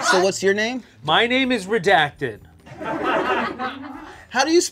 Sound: laughter

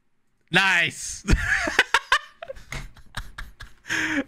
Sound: laughs

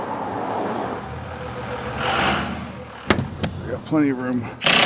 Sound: truck engine whirls; power tool drills

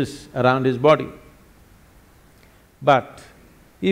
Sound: none

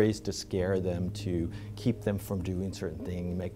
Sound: none

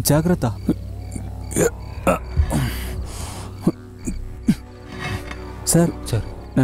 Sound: grunts

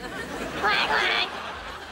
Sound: quacking

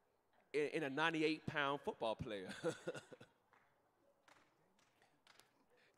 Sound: laughing

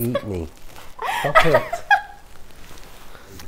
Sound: assistant laughs

